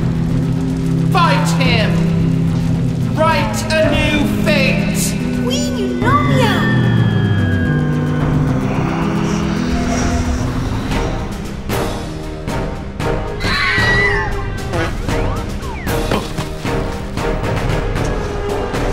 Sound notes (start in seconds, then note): 13.4 Red Helmet Screams